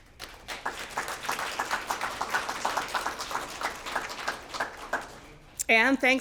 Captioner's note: applause